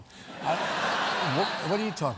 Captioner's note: laughter